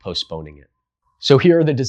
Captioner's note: beat